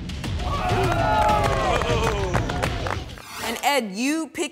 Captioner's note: everyone claps